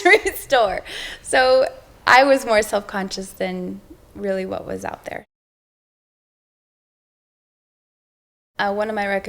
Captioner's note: laughs